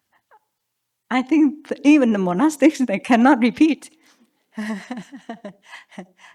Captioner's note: chuckles